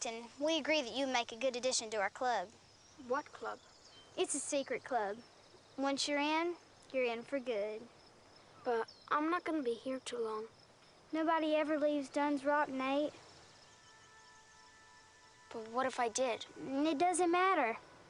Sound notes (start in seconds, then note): none